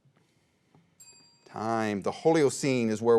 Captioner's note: bell chimes